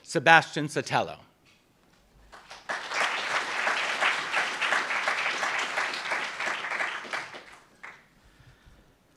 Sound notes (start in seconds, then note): 2.3 applauds